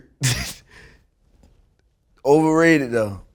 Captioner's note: laughs